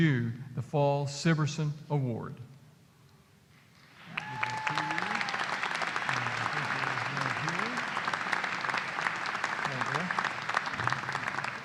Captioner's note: applause